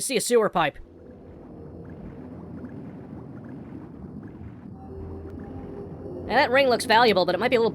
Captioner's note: swimming sound